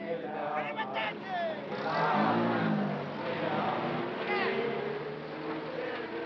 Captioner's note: shouting in foreign language